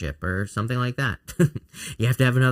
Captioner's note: chuckles